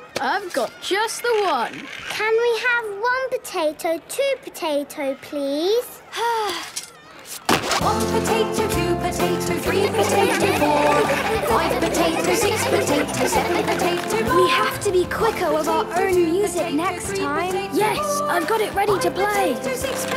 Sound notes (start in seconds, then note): 6.1 Belinda sighing; 9.7 laughter